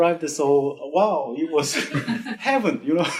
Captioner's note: laughs